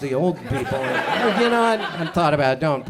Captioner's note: audience laughs